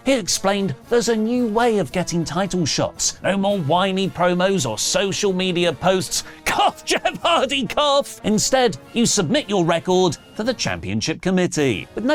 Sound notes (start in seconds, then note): 6.2 Jeff Hardy cough